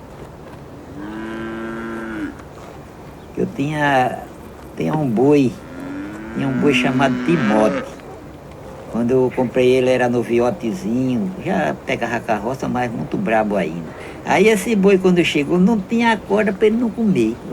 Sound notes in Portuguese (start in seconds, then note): 0.9 Mugido